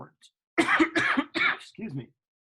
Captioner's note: coughing